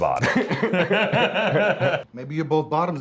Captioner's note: Luke laughs